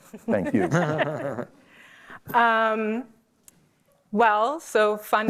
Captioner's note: laughter